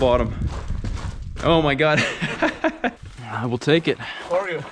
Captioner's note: laughs